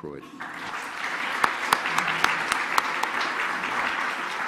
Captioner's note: all applauding